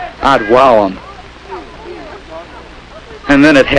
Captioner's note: light chattering